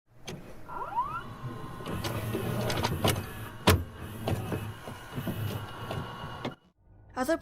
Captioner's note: VHS noises